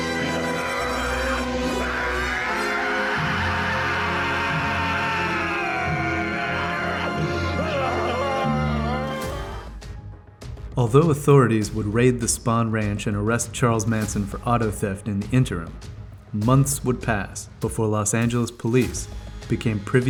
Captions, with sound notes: (Dracula screaming) Although authorities would raid the Spahn Ranch and arrest Charles Manson for auto theft in the interim, months would pass before Los Angeles Police became privy